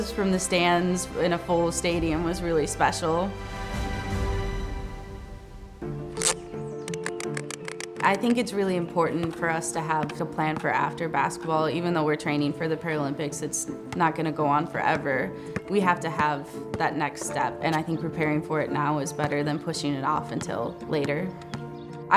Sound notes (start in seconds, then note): 5.9 soft music; 6.8 harness clicking